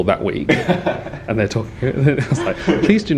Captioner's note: laughs